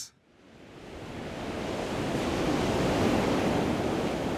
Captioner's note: ocean crashing